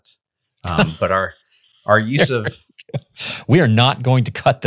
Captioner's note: laughs